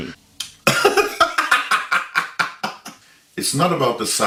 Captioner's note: laughs